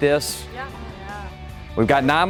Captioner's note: voiceover